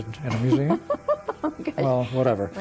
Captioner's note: laughing